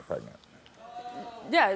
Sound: audience oohing

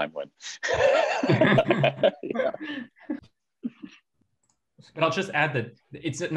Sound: laughs

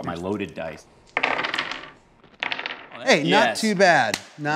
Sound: dice rolls

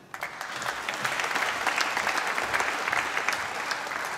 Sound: applause

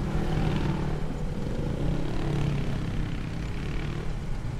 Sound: motorcycle engines revving

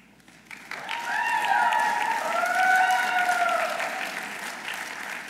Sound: audience applauding

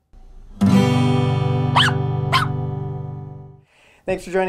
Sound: guitar strumming; puppy barking

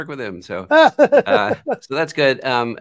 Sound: laughter

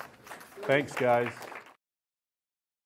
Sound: applause

